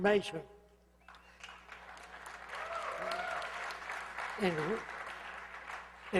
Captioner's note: hoots, applause